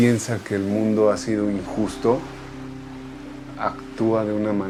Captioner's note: waves crashing